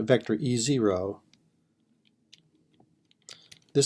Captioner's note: typing